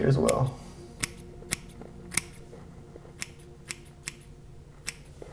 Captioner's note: scissors snipping